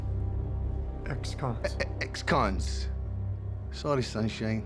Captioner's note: scottish accent